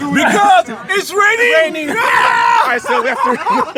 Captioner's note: screams; laughter